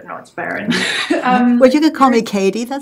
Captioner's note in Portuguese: risos